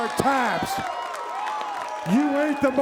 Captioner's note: audience applauds and cheers